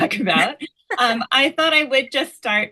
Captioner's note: laughs